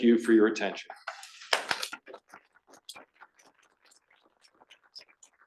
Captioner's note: audience clapping